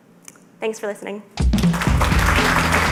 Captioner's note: applause